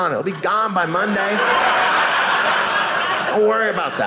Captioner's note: audience laughing